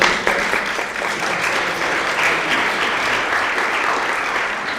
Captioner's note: audience applauds